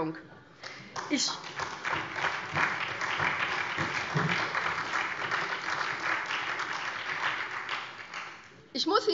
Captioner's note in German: Beifall SPD